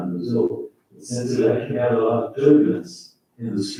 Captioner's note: faintly speaking